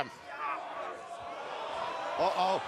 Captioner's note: crowd cheering